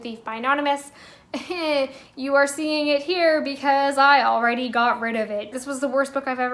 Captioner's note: uncomfortable laugh